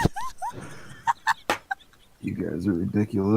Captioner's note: wheezes; cackles